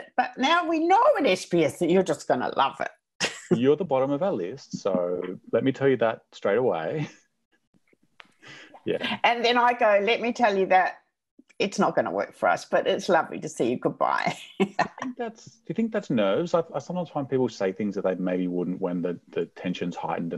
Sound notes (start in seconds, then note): 4.6 chuckles; 14.6 laughs